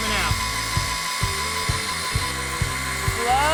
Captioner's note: buzzing sound